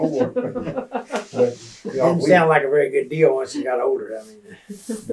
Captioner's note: laughter